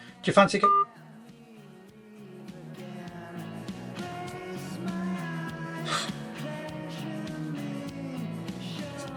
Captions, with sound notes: Do you fancy a-(cellphone beeps) (light rock music)